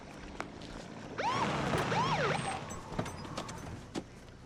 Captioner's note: siren chirps